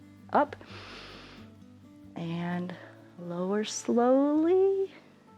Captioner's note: inhales